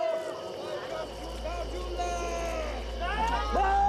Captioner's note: shouting